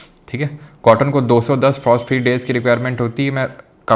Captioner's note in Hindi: नाक से की जाने वाली आवाज़